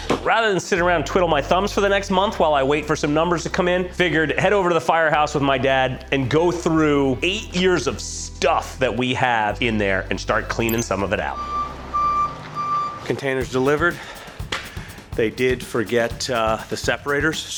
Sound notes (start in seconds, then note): 10.6 back-up alarm beeps